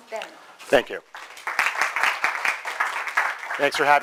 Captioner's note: clapping